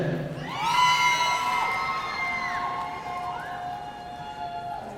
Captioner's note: audience cheering